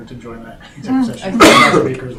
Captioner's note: coughing